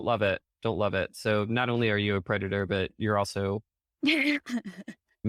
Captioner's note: snickering